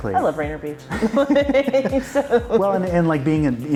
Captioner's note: both laughing